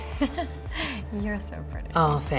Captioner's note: laughs